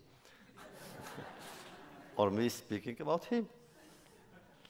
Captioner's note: laughter